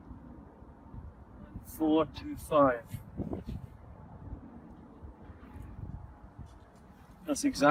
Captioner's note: extreme wind noise